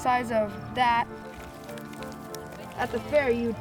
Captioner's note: goat eating hay